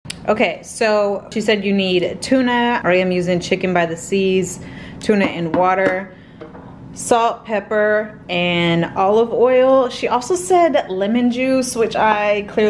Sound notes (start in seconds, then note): none